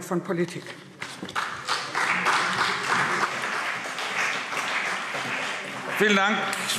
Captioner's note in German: Beifall CDU und BÜNDNIS 90/DIE GRÜNEN